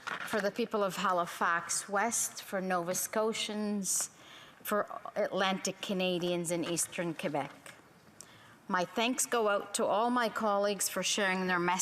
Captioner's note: speaking in french